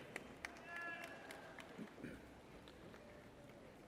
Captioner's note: person cheers